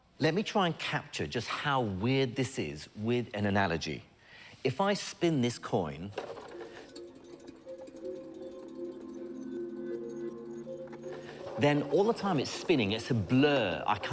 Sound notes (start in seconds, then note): 6.1 coin spins